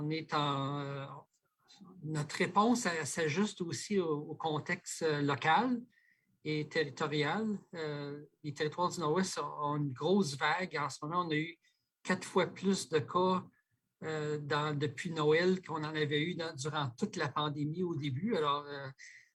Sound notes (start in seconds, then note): 6.4 speaking French